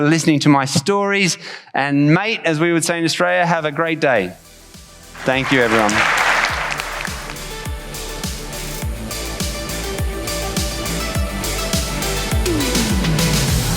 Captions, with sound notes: Thanks for listening to my stories. And mate, - as we would say in Australia, have a great day. Thank you, everyone. Thank you. [audience applauds] [upbeat music]